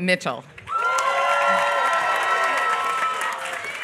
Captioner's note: applause